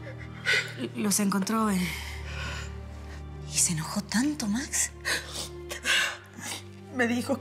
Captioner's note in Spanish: Sollozos; Sollozos